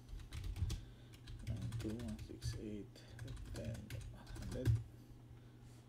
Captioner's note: typing